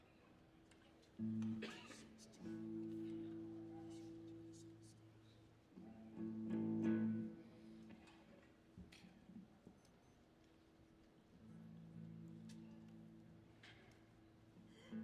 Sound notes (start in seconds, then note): 1.3 audience chattering; 1.3 guitar strumming